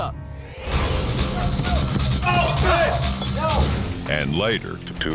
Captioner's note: fighting, shouting